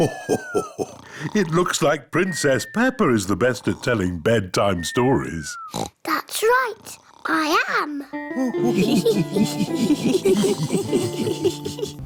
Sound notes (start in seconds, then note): 0.0 laughs; 6.8 oinks; 8.4 all laugh